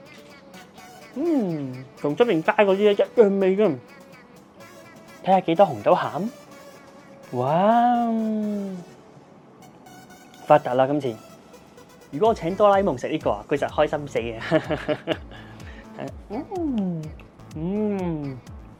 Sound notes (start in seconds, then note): 0.8 voice of ascending to heaven